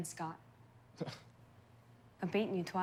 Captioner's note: Scott scoffs